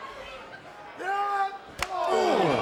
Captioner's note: Cesaro yells; crowd exclaiming; fist slaps